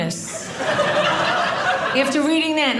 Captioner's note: audience laughing